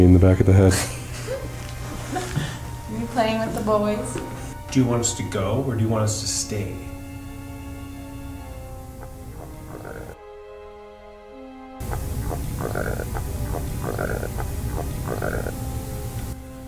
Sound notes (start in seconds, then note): 11.8 croaking